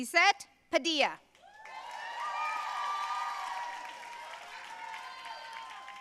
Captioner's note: audience cheering and applauding